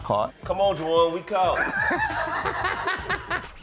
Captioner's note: laughing